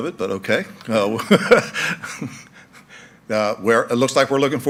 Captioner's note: laughing